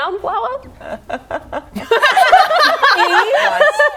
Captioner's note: laughing